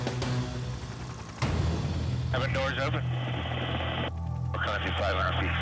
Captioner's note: helicopter rotors thump